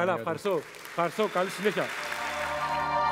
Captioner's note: Χειροκρότημα